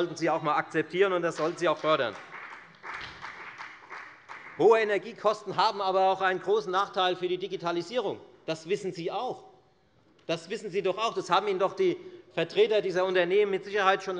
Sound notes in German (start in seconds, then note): 3.0 Beifall bei der FDP